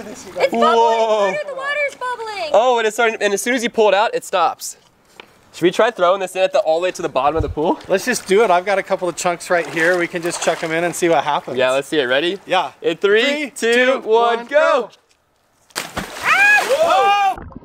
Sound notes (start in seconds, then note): 15.7 thumping and splashing